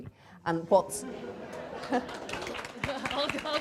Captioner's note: applause